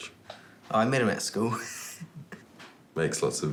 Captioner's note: laughs